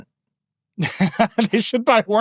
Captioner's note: laughing